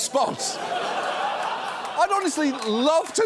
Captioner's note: studio audience laughing